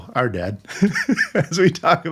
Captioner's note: laughing